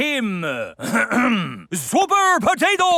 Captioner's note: clears throat